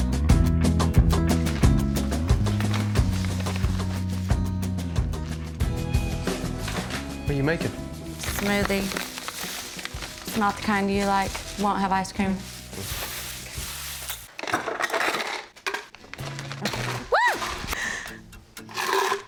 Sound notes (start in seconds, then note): 2.9 bags rustling; 14.5 frozen fruit clinks in glass; 16.5 bag rips, she exclaims; 18.7 ice rattling